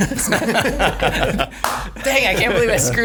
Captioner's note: laughing